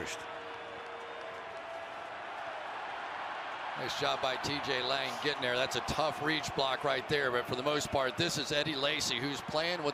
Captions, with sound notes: He picks up the first. [cheering] Nice job by TJ Lang getting there. That's a tough reach block right there. But for the most part, this is Eddie Lacy,